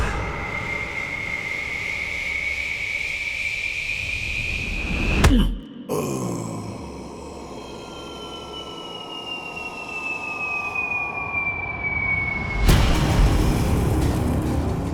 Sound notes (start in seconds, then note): 5.8 groan; 12.6 crash